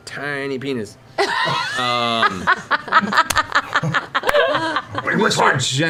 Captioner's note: laughter